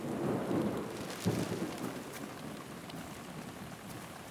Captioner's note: thunder rumbling